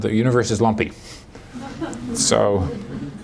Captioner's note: laughter